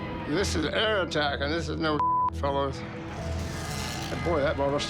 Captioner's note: beep